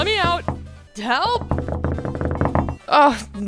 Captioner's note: tapping; more tapping; rapid tapping